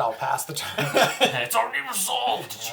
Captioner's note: all laugh